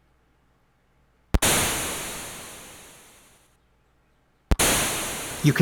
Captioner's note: thunder claps